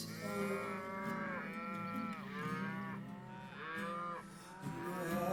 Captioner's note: cows mooing